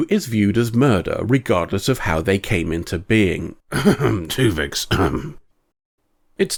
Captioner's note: coughtuvixcough